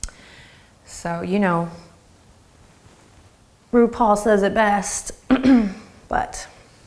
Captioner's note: clears throat